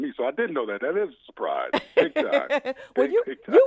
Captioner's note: laughs